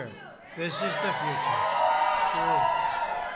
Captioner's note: applause